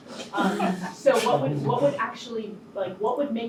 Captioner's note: people laughing